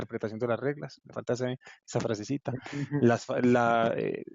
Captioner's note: giggles